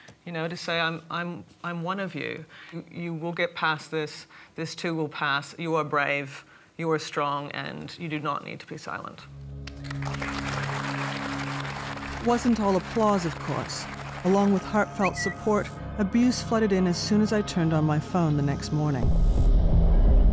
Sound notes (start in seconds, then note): 9.6 all applauding; 20.0 ominous music